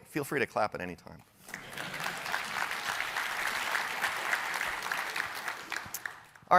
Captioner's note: applause